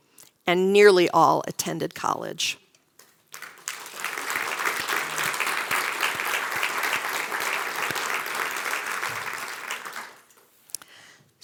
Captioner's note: applause